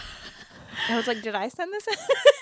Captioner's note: laughs